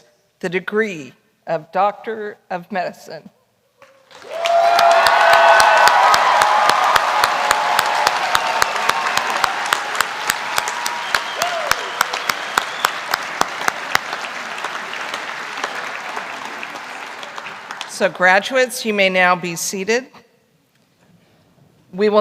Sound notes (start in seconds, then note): 4.1 cheering; 5.9 applause